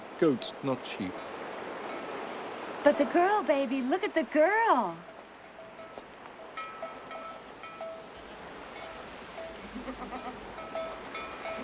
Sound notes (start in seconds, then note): 6.8 ringing and bleating